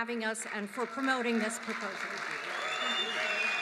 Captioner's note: applause